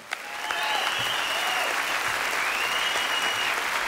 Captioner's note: applause